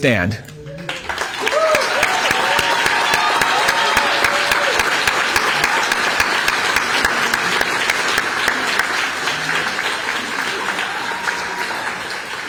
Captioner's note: applause